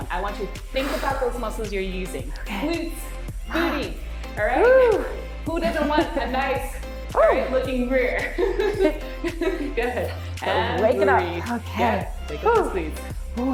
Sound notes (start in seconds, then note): 8.3 laughing